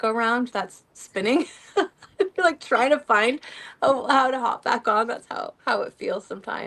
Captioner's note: laughter